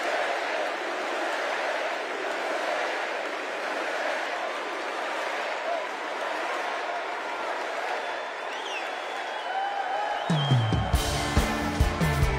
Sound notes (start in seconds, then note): 0.0 cheers and applause; 4.2 crowd chanting